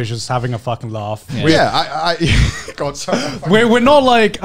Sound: laughs

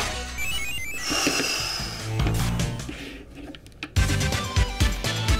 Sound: sighs; upbeat 8-bit music

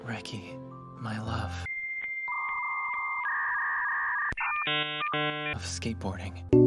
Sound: dial-up beeps of homosexual glitching

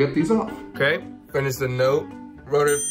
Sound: dinging

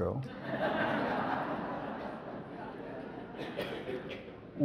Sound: audience laughs

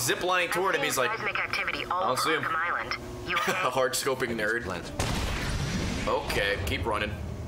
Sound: laughs

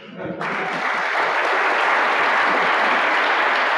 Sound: audience clapping

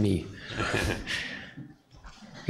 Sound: laughter

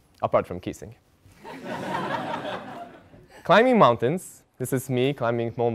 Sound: laugh

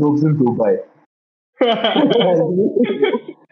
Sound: laughter

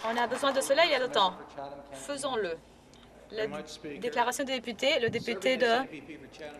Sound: applause

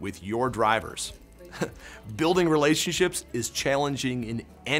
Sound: laughs

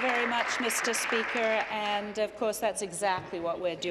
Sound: applause

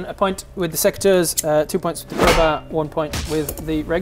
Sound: smack

